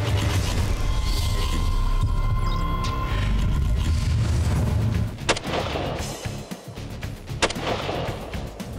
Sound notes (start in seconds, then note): 0.5 digital music; 5.2 gunshots